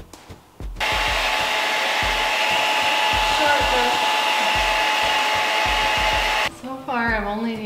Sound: hair dryer sounds

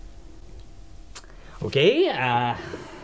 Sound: clicks tongue

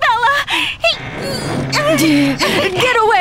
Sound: Hana strains

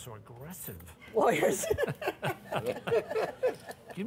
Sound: laughter

